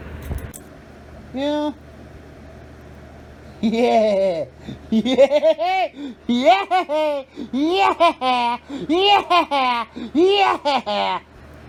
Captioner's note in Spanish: Ella se ríe y se ríe